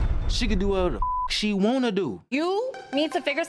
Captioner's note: beeps